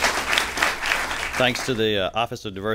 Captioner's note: applause